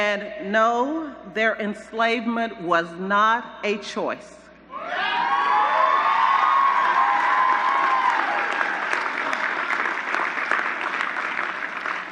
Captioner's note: applause